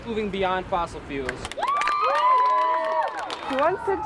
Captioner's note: crowd cheering and clapping